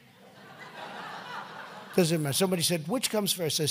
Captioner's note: laughter